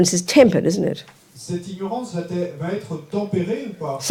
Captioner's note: French